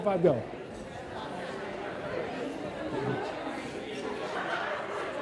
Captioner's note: side chatter